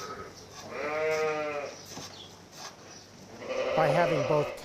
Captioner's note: sheep baaing